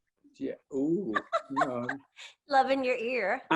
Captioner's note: laughs